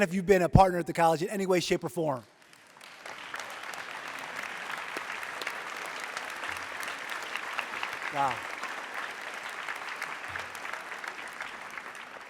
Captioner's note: applause